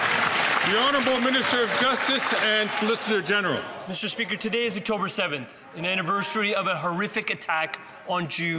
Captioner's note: some Applause